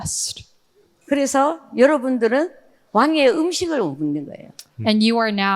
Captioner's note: speaking in foreign language